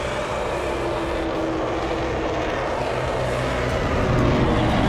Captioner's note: jets passing